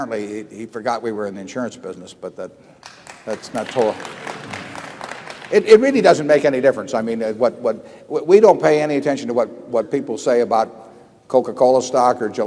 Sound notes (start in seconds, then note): 2.8 applause